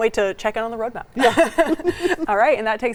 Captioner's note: laughs